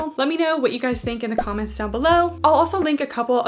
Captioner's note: graphics beeping